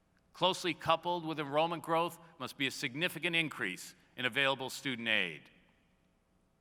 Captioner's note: none